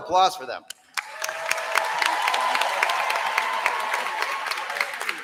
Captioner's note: applause